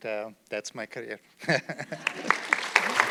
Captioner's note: chuckling; audience clapping